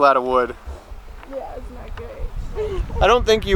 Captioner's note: laughing